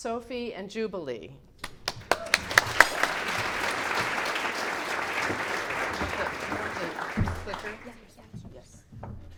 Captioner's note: clapping